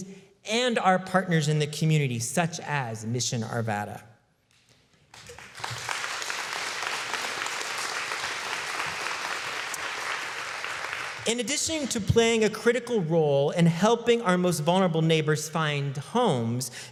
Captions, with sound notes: and our partners in the community, such as Mission Arvada (applause) In addition to playing a critical role in helping our most vulnerable neighbors find homes,